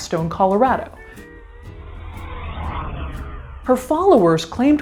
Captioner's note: plane engine roaring